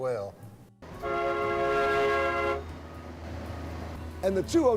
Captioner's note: trolley horn blows